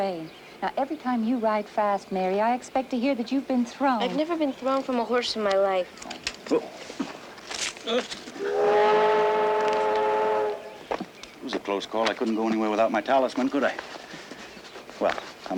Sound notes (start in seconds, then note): 7.9 william grunts; 8.4 train horn sounds